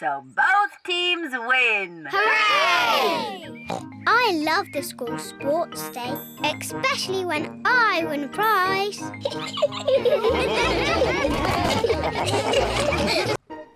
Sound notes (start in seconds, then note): 9.0 laughs; 9.2 all laughing